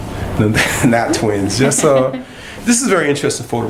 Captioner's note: laughter